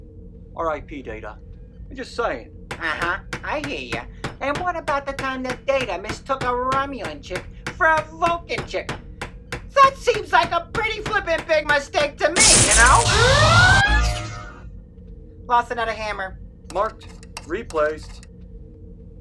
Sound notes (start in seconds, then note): 2.8 hammering; 13.7 sound of a forcefield turning on. The vacuum and Red-Alert siren stop; 18.0 screwdriver sounds